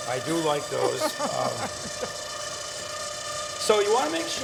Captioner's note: laughing